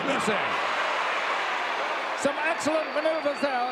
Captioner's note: audience cheering